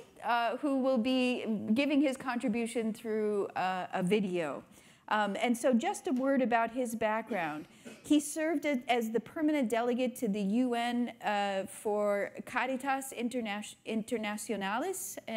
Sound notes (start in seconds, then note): 7.2 attendee coughs